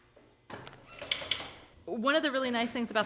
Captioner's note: sewing machine clicks in the background